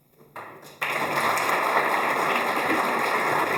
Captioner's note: applause